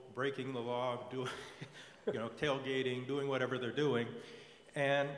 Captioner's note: laugh